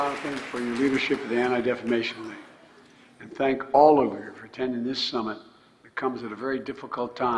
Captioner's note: applause